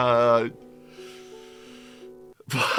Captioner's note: inhales sadly